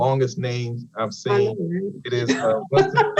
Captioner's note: panelists laughs